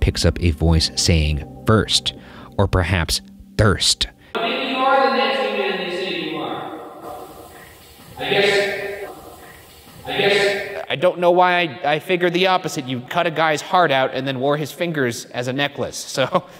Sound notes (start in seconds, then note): 9.0 voice whispers